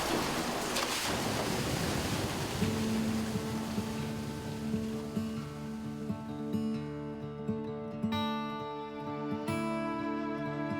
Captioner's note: sound of rushing water